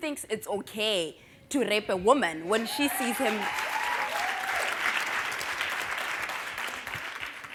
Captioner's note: applause